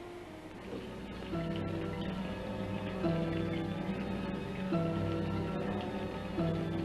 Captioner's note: ominous music; machines whirring